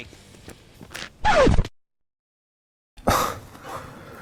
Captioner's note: video scratching; sighs